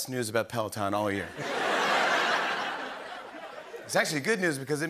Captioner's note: laughter